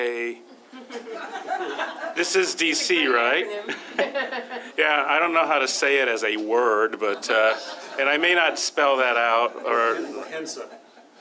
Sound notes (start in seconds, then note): 0.5 laughter; 7.0 laughter